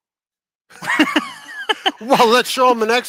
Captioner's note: laughs